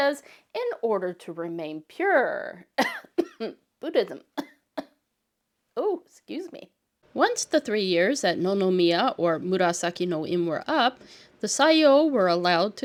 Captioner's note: cough